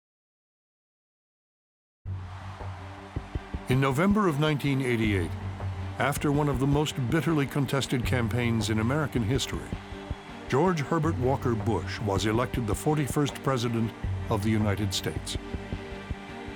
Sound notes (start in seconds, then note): 1.8 crowd cheering